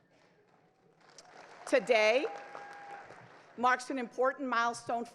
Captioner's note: crowd cheers